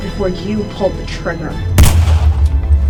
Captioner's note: gunshot